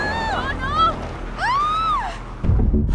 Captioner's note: screams